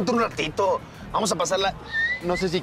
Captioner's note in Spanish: Silbido